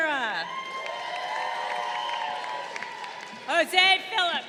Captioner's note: crowd cheering